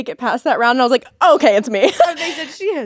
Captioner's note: laughing